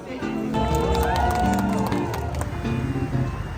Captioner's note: applause